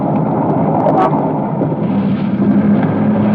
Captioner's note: horn honking